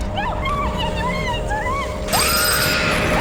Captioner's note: high squealing; screaming and terrifying animatronic sounds